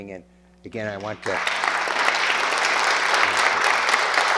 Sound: applause

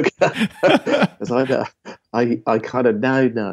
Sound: laughing

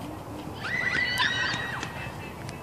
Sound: girlish scream

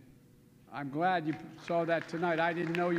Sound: applause

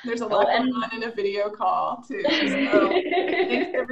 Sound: laughter

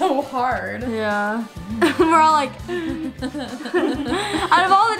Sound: laughs

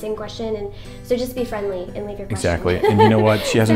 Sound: laughs

